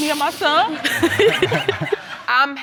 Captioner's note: laughter